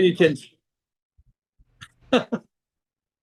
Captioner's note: laughs